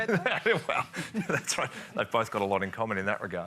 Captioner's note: laughs